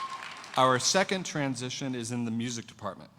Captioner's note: cheers and applause